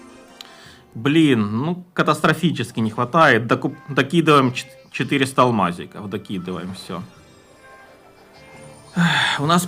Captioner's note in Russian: вздыхает